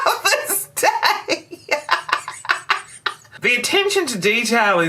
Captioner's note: laughter